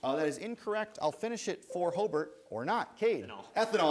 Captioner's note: bell rings